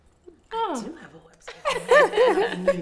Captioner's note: laughing